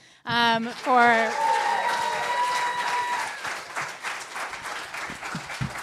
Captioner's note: applause